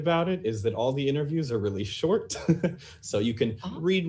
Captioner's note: laughs